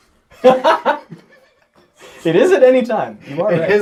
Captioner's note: all laugh